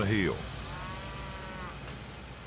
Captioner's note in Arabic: هدير التوجيه